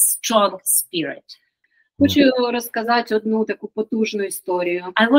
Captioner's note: Ukrainian